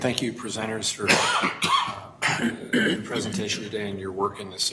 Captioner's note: coughing